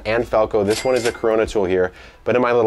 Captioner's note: cash register rings